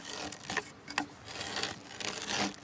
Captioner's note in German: Knarzen